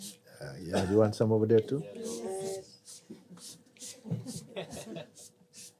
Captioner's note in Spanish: risas